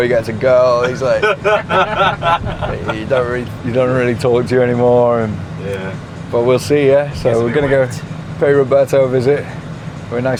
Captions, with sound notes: when your boy gets a girl, he is like, (people laughing) he don't really talk to you anymore. - Yeah. - But we'll see, yeah. So we're gonna go pay Roberto visit.